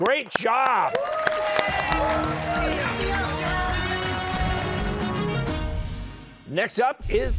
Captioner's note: cheers and applause